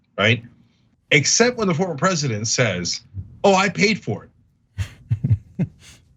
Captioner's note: laugh